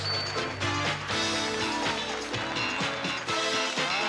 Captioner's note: applause